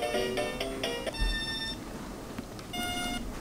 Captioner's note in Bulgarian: звукови сигнали